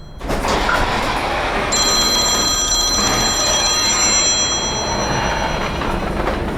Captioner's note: phone ringing and garage door closing; click!